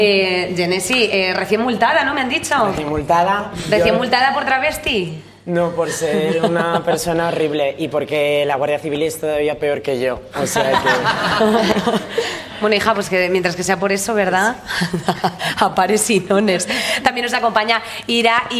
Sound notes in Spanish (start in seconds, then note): 10.5 todos ríen